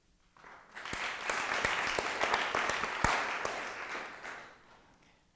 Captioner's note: applause